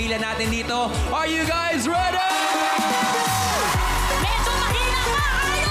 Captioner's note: audience cheering